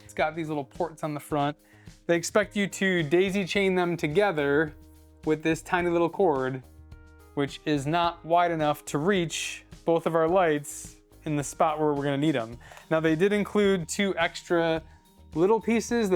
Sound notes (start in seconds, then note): none